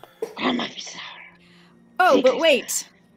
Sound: Talron speaking in foreign language

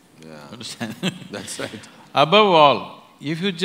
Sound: laughs

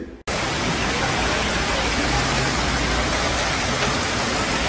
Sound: water crashing

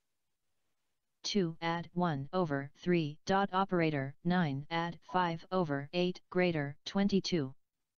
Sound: synthesized speech

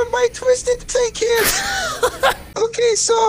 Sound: laughter

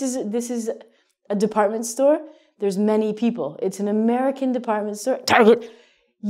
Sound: coughs

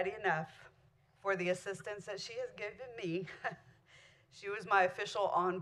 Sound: chuckle

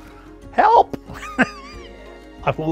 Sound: laughing

